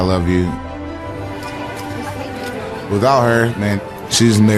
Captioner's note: none